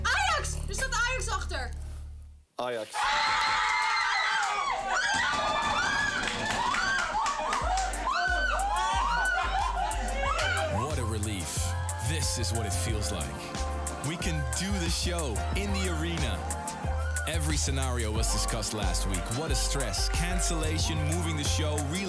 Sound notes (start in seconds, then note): 0.9 speaks in foreign language; 3.5 screaming and cheering; 5.2 banging on tables; 9.7 upbeat music